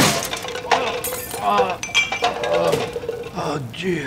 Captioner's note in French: gémissements